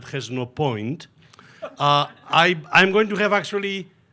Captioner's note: attendees laughing